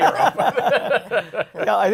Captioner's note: laughter